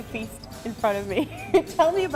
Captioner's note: laughs